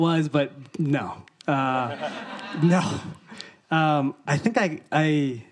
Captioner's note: audience laughing